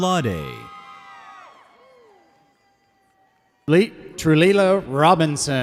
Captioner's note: audience cheers